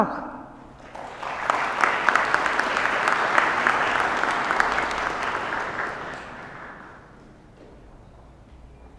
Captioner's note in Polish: oklaski